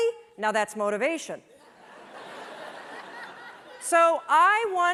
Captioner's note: laughter